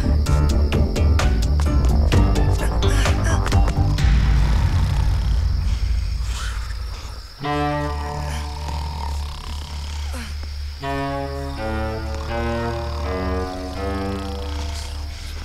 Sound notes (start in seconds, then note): 4.3 snoring